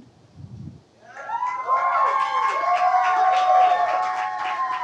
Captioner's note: audience cheers and applauds